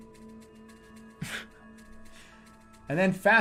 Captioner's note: bursts out laughing